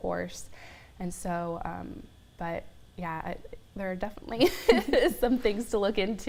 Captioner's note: laughs